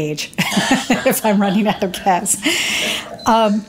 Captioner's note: laughs